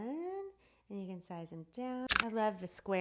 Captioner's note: clicks